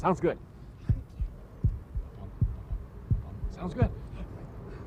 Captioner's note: heartbeat